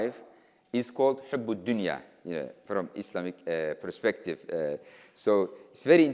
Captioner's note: speaking in foreign language